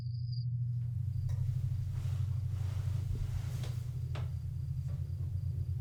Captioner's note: rumbles